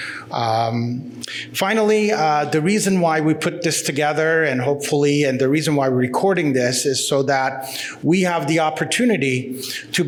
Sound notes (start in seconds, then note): none